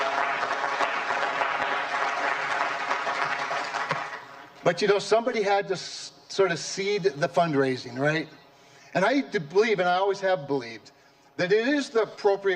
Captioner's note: applause